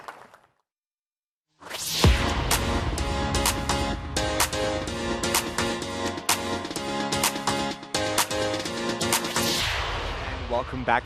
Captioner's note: applause